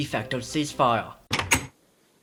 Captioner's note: door opening